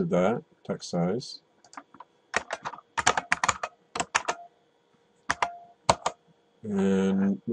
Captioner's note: typing